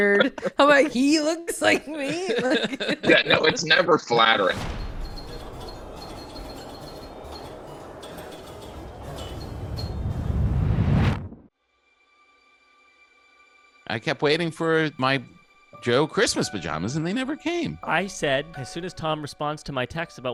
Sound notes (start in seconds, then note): 4.5 pinball machines dinging